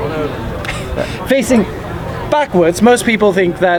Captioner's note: chuckling